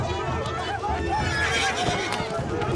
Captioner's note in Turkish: Yuhalama sesleri; At kişneme sesi